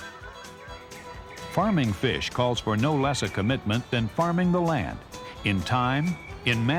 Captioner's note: voiceover